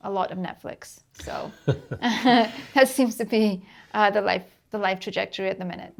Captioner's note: laughs